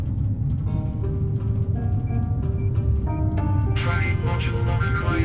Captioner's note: dramatic music; machines beeping